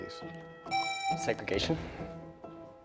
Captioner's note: presses buzzer